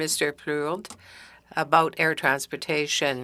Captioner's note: speaking French